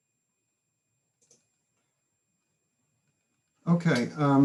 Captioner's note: mouse clicks